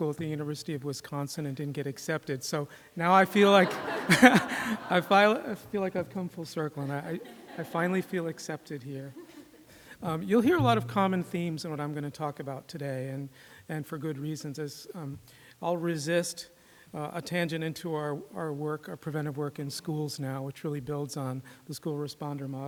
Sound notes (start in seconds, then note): 3.3 laughter